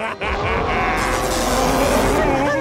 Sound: cackling; roaring

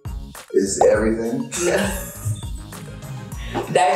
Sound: both laughing

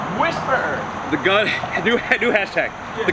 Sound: laughs

